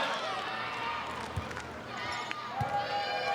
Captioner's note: ball thumping; players shouting indistinctly